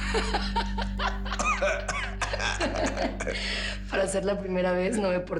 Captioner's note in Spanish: Risas